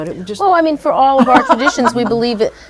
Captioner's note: laughs